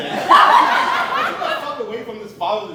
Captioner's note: audience Laughing